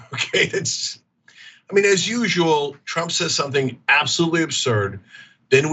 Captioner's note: laugh